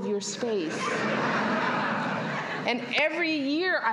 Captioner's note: laughter